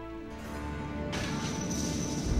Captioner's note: coins clinking